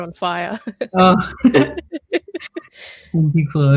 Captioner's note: laughs